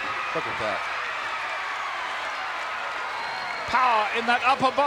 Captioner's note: crowd cheers